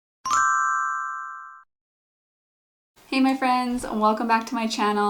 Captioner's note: bell dings